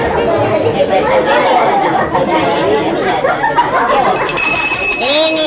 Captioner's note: sound - noise in the hall